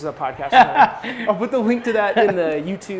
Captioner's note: laughs